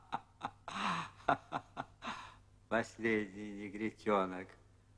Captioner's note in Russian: Смех